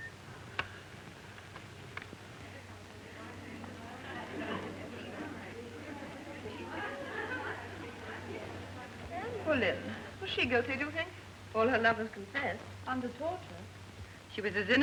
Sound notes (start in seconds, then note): 2.5 chattering